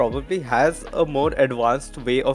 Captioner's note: background laugh